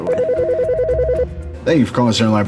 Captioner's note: phone rings